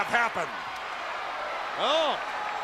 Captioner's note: crowd cheering